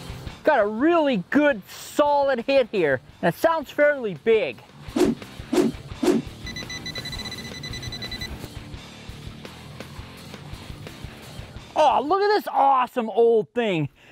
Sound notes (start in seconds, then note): 6.4 beeping